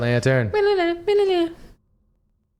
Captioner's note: humming